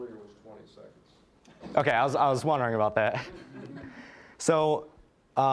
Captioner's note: audience laughing